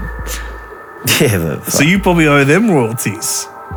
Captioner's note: laughs